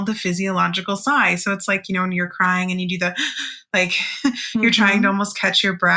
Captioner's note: mimics rapid breathing